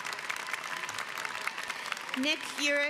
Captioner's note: applause